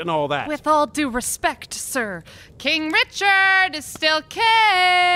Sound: shouting, as if someone is eavesdropping nearby

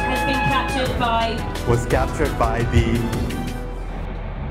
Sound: voiceover

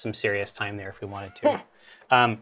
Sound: stifles a laugh

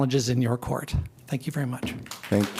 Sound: applause

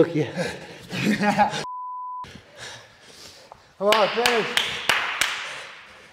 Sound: applause

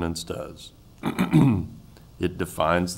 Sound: clears throat

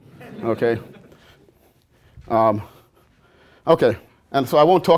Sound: laughter

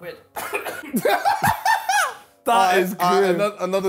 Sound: laughing

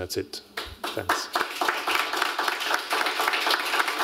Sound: applause

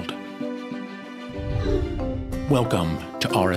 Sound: woosh

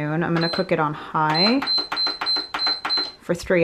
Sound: beeping

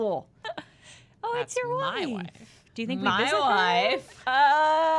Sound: Borat voice

